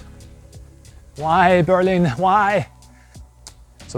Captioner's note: cry of despair